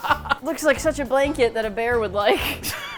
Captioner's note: laughs; both laugh